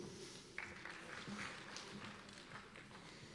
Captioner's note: applause